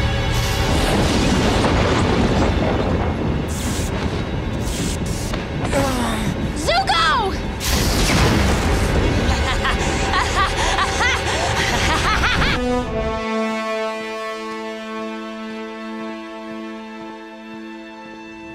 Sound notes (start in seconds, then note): 5.5 groaning; 9.0 maniacal laughter